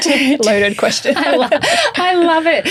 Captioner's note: laughing